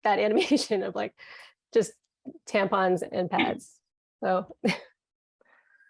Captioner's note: chuckles